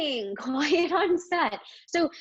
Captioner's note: chuckles